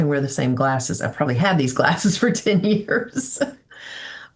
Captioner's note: laughing